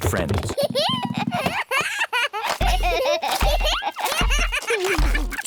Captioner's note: both giggling